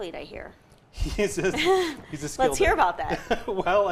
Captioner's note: laughs